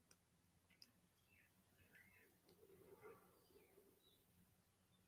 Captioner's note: birds chirping